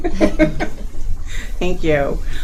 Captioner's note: laughing